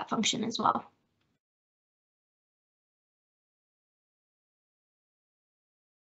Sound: pause

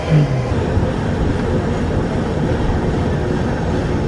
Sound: engine rumbling

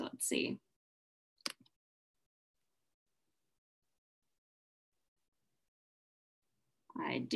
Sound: silence

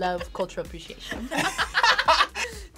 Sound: both laugh

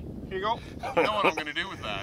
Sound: chuckles

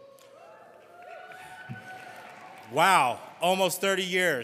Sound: audience cheering

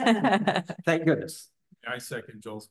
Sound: laughter

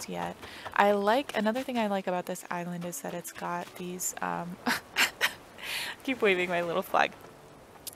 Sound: laugh

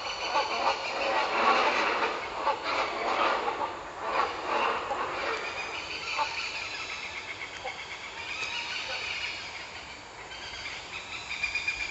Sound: lower frequency shouts from Great Hornbills

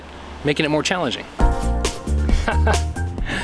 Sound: chuckles

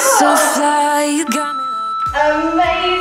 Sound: beeping

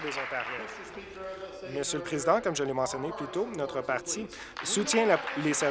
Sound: applause

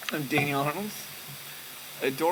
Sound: voice cracking

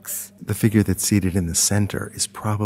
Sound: voiceover

